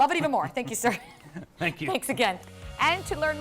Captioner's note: laughter